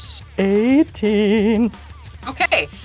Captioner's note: warbles